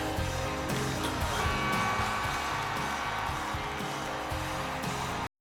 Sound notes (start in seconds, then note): 0.1 cheering; 0.8 buzzer sounds